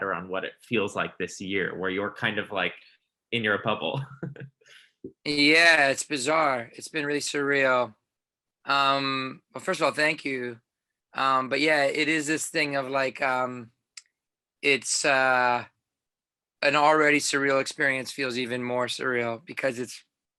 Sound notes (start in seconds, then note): 3.9 interviewer laughing